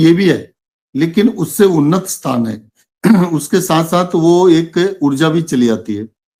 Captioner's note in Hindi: गला साफ़ करने की आवाज़